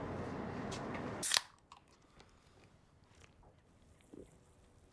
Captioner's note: beer can pops